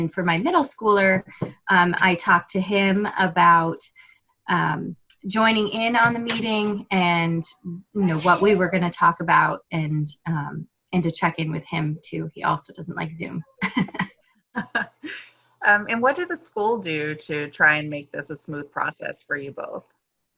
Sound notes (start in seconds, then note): 13.6 laughter